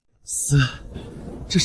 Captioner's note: sigh